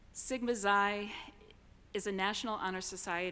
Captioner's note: none